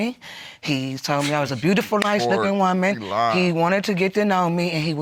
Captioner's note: scoffs